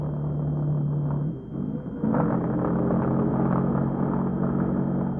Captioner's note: engine revving